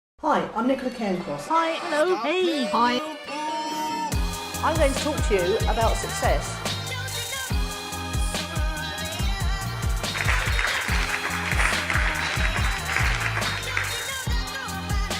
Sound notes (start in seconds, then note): 10.0 audience applauding